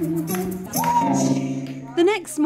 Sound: cheering and clapping

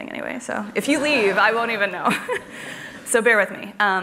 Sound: laughs

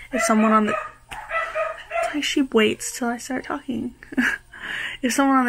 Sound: dogs barking

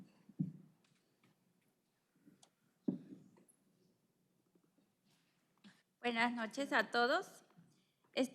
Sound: speaking spanish

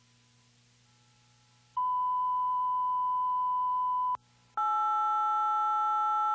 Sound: beeping

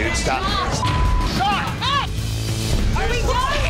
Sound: beep

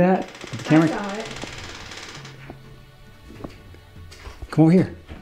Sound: door creaking

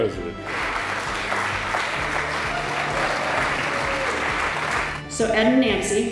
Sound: applause

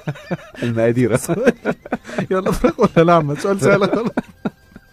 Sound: laugh!

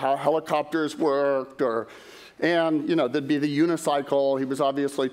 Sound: none

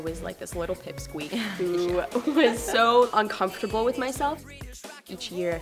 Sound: laughs

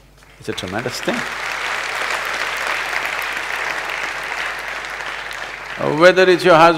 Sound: applause

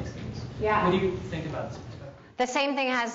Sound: speaks quietly

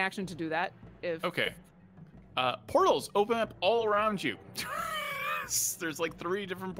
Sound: laughs

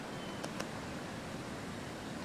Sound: tapping

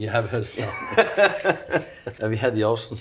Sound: laughs

